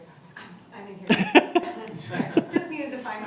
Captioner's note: laughter